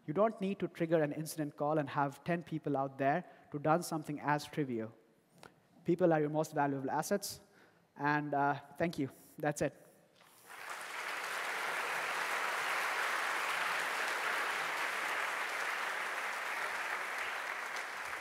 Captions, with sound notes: You don't need to trigger an incident call and have ten people on there who have done something as trivial. People are your most valuable assets. And thank you. That's it. (applause) >> Nice work!